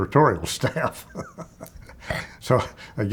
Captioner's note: chuckling